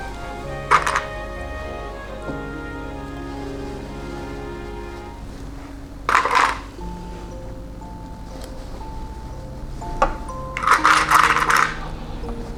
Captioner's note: clips rustling